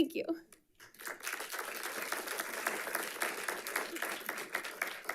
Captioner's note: audience applauding